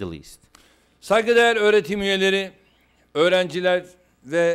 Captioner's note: non-english speech